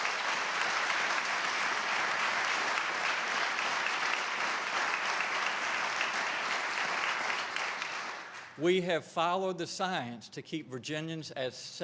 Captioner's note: applause